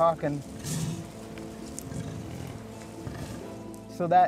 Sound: bison grunts

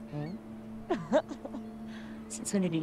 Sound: chuckles

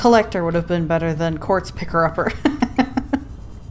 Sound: laughs

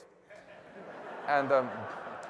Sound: laughter

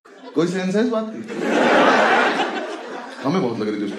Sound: laugh

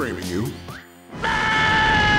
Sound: screaming

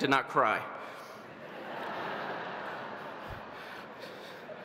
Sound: audience laughing

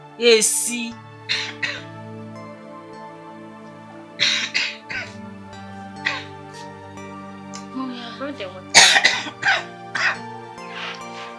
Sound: coughing

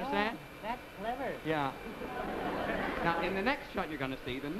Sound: audience laughs

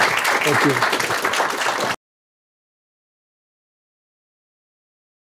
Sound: audience clapping

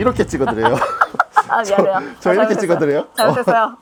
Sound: laughter

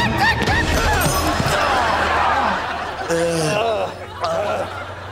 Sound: screaming; groaning

